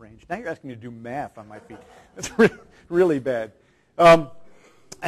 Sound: chuckles

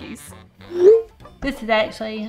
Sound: text whooshing

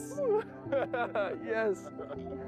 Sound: laughter

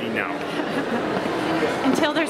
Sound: laughing

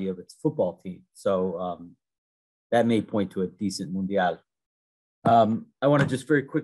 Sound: speaking in foreign language

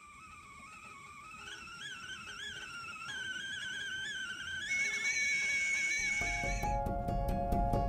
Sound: kettle whistle

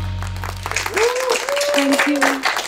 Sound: all cheering and applauding

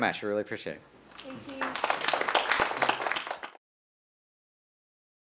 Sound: applause

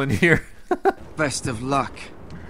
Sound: laughs

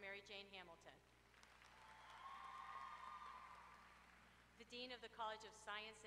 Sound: applause

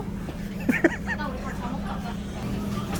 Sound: laughs

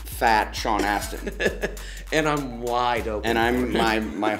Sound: laughs

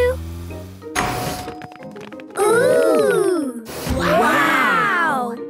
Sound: door dings open

